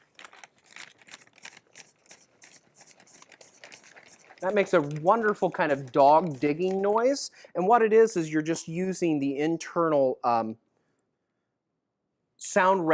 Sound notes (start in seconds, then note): 1.8 digging sound